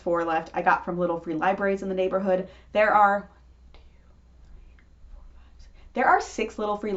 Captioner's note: quietly counting